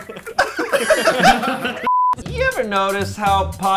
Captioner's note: group laughs